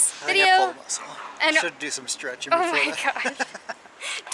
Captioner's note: laughter